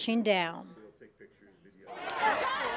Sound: crowd

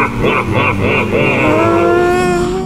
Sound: desperate cry

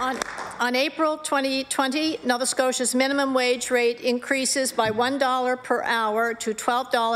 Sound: applause

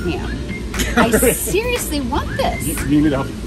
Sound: laughs

